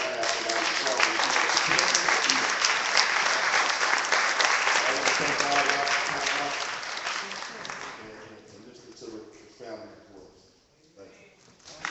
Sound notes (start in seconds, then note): 1.5 clapping